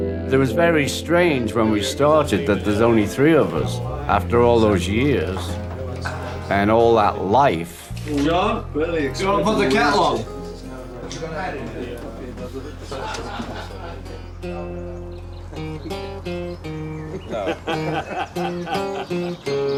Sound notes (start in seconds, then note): 10.1 indistinct chatter; 12.8 laughing; 17.2 laughing